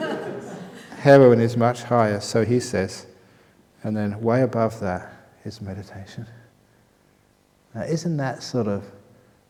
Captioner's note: laughter